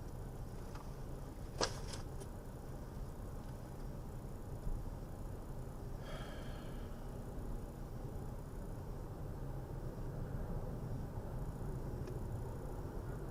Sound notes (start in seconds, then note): 6.0 driver sighs